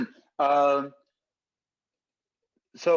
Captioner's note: both laughing